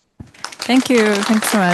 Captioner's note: applause